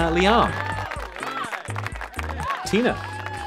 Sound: cheering; applause

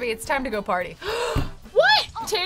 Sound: gasps

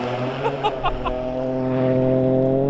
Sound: laughing

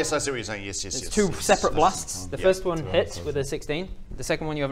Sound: ungrateful muttering

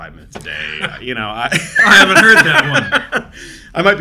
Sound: laughs; both laughing

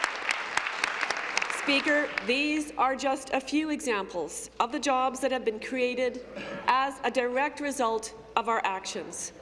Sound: applause

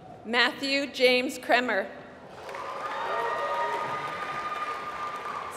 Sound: applause

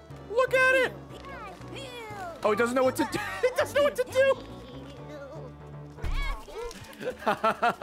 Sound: laughs

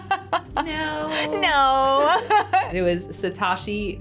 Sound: laughing

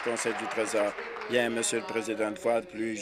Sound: applause

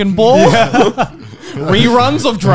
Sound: laughs

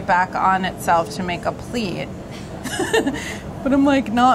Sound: laughs

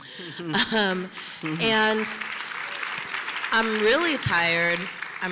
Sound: applause

